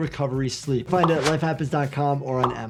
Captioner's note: graphic pops